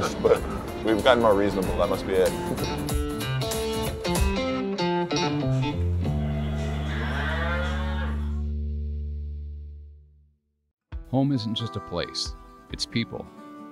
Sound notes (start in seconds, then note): 2.3 guitar music; 6.1 cow mooing